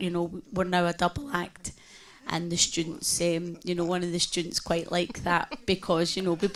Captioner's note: laughing